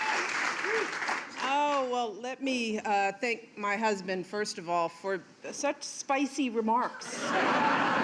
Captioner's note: cheers and applause